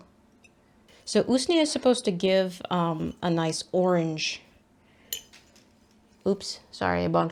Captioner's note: ring clanks against glass